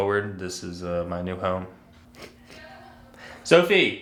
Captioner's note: snickers